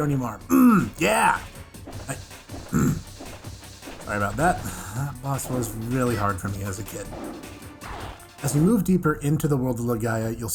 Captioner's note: snek Noise; ahem